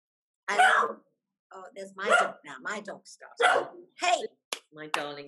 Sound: dog barking

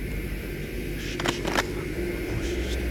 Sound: night ambience; gun cock

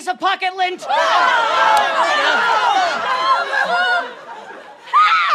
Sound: screaming

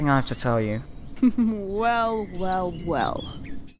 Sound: laughter

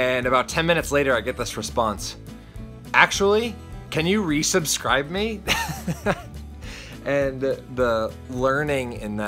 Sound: laughs

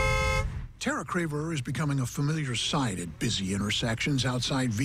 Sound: horn blowing

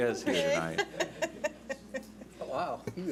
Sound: laughs

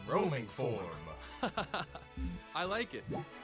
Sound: laughs

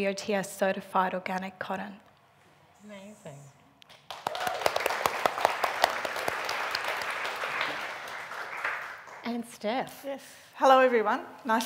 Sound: applauding

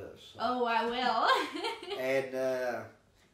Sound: chuckling

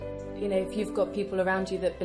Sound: voiceover

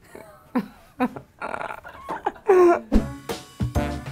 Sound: giggling; upbeat music

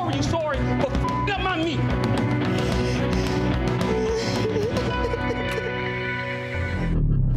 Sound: beeps

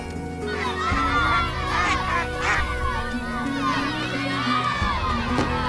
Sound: crowd cheering and yelling

